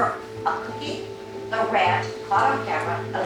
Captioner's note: hablan un idioma extranjero